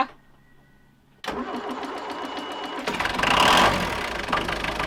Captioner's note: motor whirring